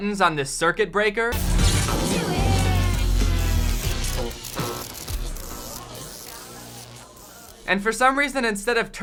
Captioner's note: weird zap sounds